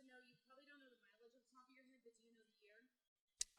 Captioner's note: faintly speaking